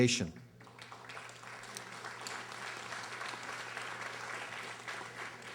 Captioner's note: audience applauding